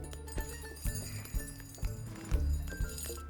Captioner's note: tinkling